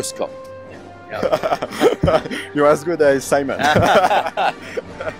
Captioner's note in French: Rire